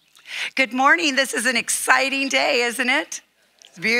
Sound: none

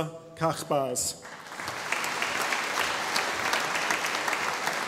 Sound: audience applauding

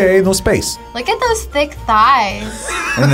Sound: React laughs

